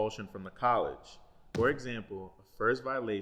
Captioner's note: thump